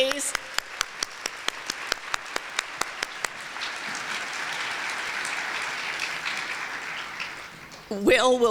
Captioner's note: applause